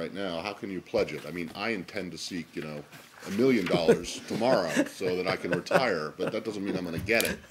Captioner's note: laughter